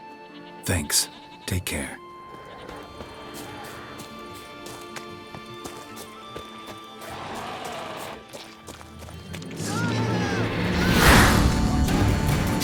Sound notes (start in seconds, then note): 7.0 drowners snarling